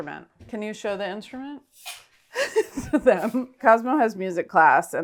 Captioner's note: laughs